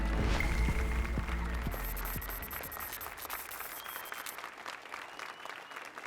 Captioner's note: applause and cheers